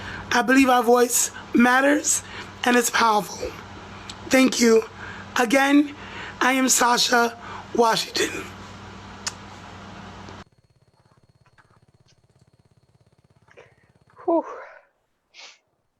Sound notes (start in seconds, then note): 9.2 kisses